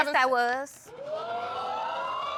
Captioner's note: audience exclaiming